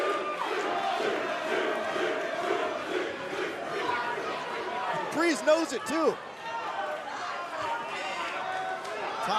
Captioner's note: fans chanting